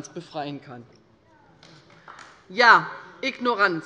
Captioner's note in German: Beifall bei Abgeordneten der LINKEN